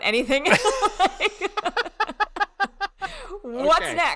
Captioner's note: laughing loudly